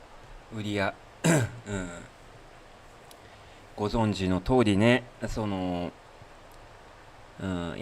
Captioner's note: clears throat